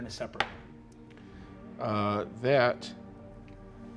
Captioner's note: die rolling